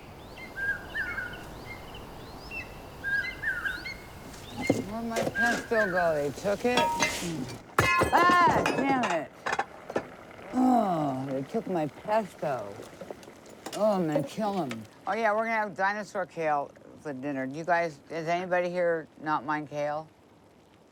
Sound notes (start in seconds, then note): 0.0 birds chirping; 6.4 clatter